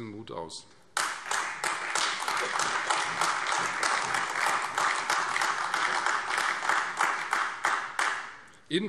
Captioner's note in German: Beifall Freie Demokraten, AfD und vereinzelt CDU